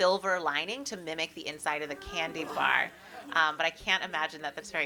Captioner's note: ahhs from the audience